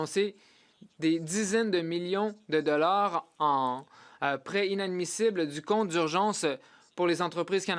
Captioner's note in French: voix de l'interprète